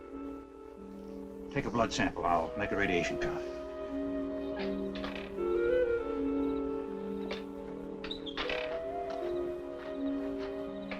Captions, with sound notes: Take a blood sample. I'll make a radiation cut. (ladder creaking) (mysterious orchestral music)